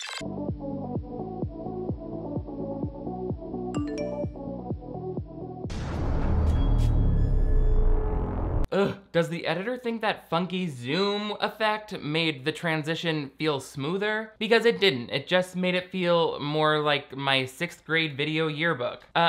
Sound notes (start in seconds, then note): 0.1 upbeat music continues; 3.8 phone dings; 5.2 ominous music